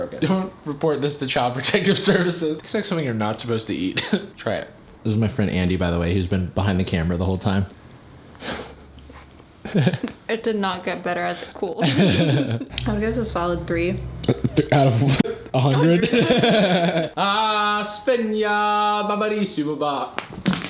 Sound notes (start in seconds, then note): 12.0 people laughing